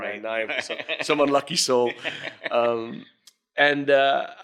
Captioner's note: laughing